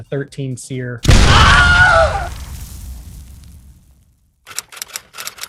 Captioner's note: man yelling; typewriter keys clacking